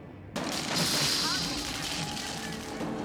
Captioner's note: electricity crackles